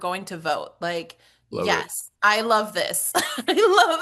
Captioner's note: laughs